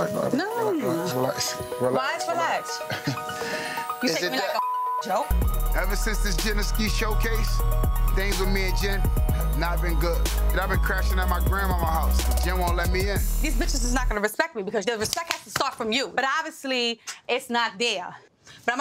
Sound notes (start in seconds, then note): 2.8 chuckles; 4.2 beep